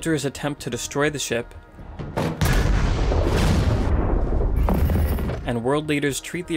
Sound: explosion

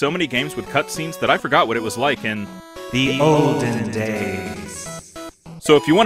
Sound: echoing

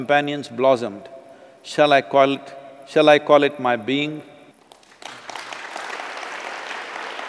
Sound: applause

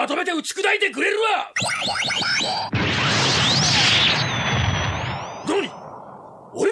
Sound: SFX: spell sound

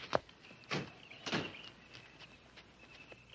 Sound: car doors shut

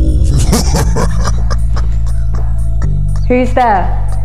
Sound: laughter

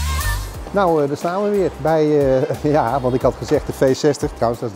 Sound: chuckles

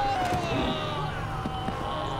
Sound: yelling

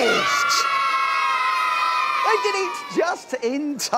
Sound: cheering

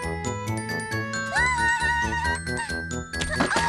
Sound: laughs

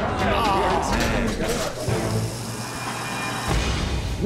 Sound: patrons groaning

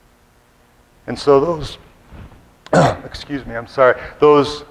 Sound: clears throat

